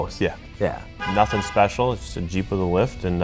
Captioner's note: honking